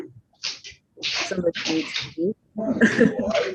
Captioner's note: laughs